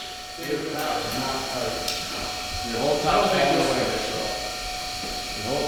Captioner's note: workers conversing